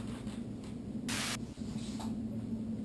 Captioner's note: static